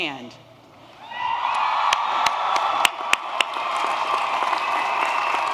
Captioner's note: applause